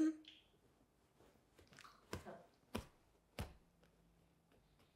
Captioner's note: hands hitting